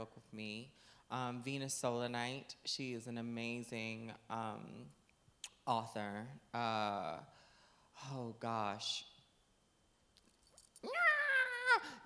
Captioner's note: yelling